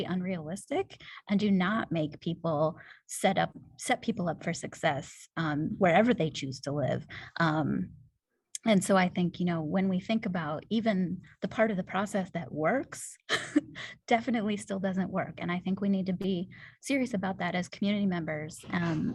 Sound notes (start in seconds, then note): 13.3 laughter